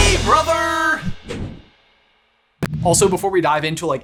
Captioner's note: logo whooshing